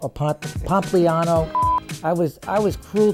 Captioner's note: beep